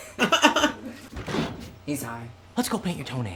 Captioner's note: laughs